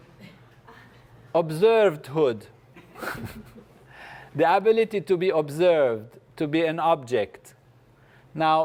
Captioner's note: laugh; laugh